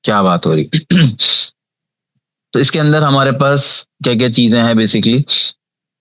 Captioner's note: sound of clearing throat